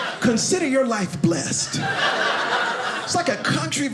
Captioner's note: audience laughing